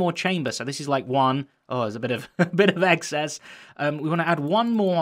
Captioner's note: chuckles